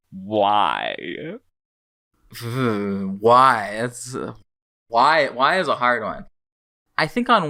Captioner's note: anxious shiver